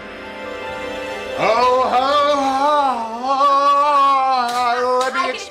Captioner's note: moaning